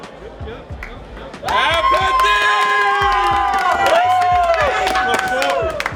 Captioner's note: cheering